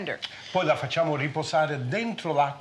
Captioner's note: speaking Italian